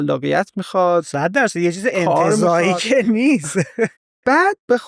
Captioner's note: laughs